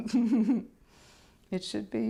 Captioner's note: laughter